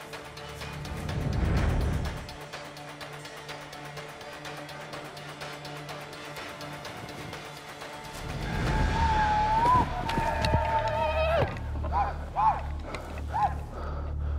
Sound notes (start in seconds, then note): 0.0 tense music; 8.4 whooping sounds nearby; 11.9 tense music